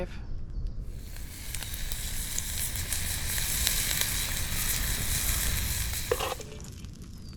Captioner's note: sizzle